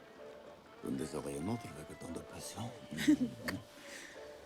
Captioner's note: continues in French